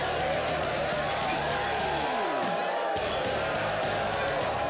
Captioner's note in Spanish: Multidão aplaudindo; Mulheres grunhindo; Música rock animada